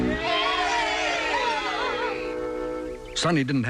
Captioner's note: cheering